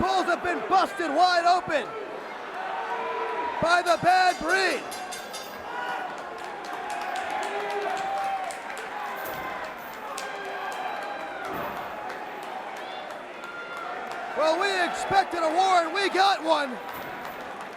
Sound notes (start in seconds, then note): 3.8 bell ringing; 6.9 crowd cheering